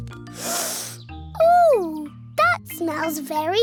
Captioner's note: sniffs